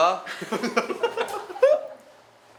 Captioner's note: drill instructor voice came out unintentionally